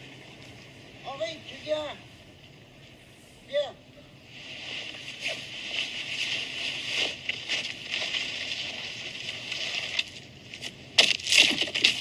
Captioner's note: CLIP: wind and snow swirling